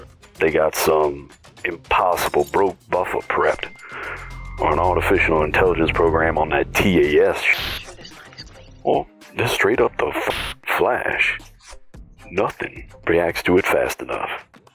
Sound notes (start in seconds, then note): 7.7 static; 10.8 static